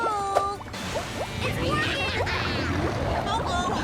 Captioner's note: bubbles bubbling; they all laugh